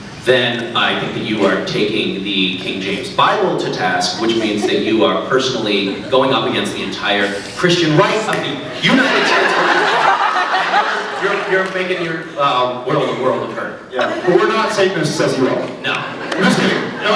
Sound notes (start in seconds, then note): 8.6 laughs; 9.6 snaps; 12.0 laughs; 16.0 scattered laughs